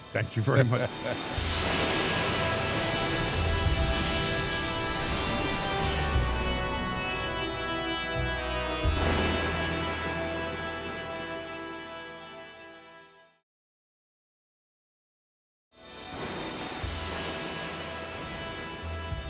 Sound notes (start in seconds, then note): 1.3 stirring music; 8.9 lightning thunders